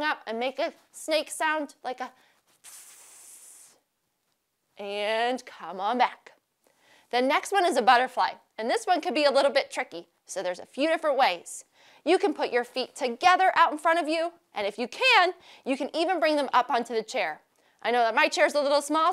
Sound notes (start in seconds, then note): none